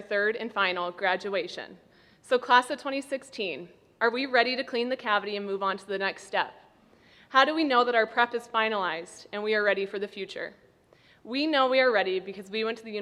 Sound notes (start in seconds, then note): none